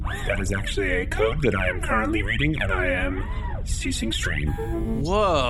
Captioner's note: powering down noises